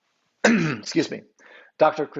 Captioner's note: clears throat